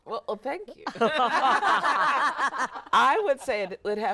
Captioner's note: everyone laughing